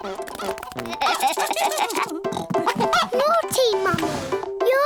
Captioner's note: giggling